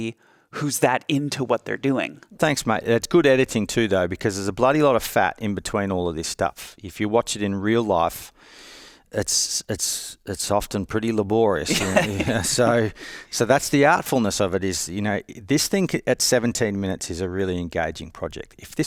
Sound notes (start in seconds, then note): 11.6 chuckles